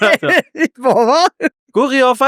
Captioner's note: laughs